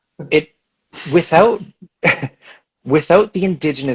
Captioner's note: chuckles